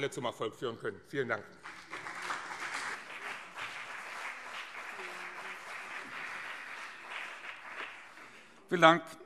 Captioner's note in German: Beifall BÜNDNIS 90/DIE GRÜNEN